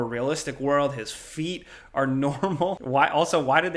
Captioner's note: chuckles